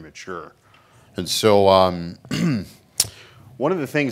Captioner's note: clears throat